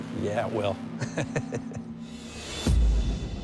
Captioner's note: laughs